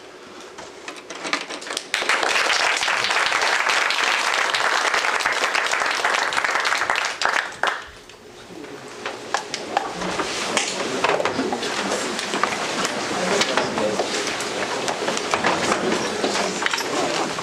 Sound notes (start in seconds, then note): 1.7 applause; 8.2 background chatter